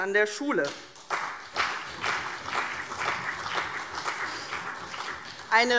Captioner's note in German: Beifall CDU und vereinzelt BÜNDNIS 90/DIE GRÜNEN